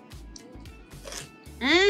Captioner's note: crunch